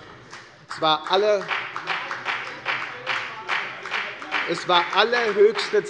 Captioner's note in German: Beifall bei der FDP